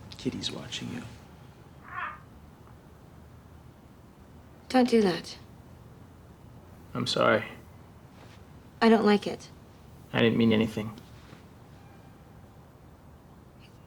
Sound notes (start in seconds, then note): none